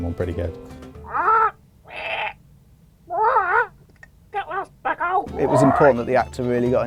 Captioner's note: squawks